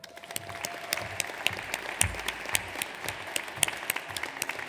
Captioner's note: audience applauds